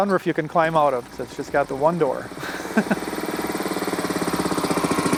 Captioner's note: laughs; car engine revving